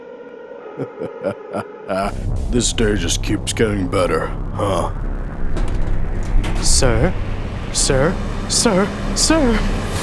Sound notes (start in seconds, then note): 0.6 chuckling menacingly